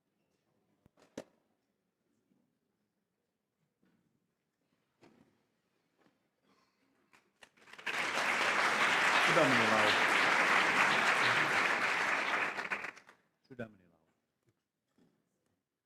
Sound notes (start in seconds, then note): 7.4 applause